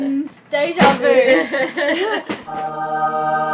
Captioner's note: laughs